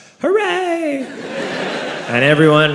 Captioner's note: crowd laughs